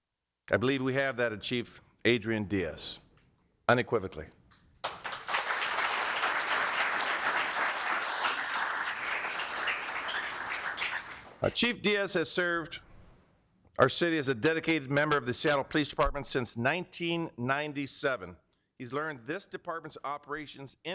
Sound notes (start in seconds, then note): 11.4 applause